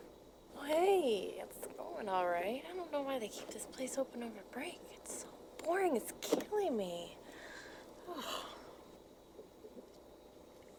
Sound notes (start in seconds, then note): 8.0 sighs